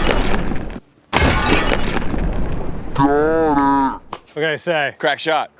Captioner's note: slow motion glass shatter; slower motion glass shatter